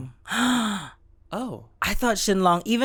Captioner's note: gasps